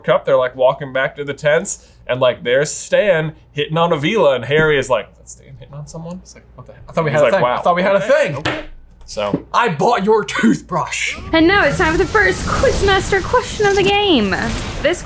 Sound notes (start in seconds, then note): 8.4 hand slapping table; 11.2 explosion noise